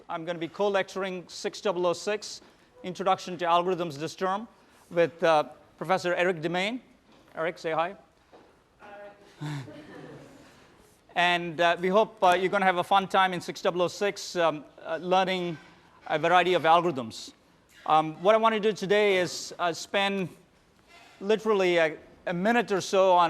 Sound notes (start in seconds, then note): 9.4 laughter